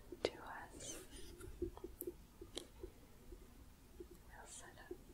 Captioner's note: gentle tapping